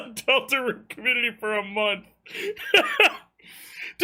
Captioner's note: laughs